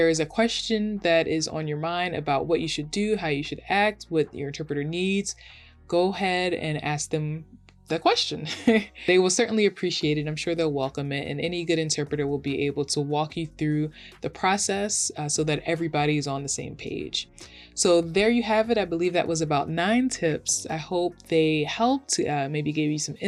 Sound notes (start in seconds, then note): 8.4 chuckles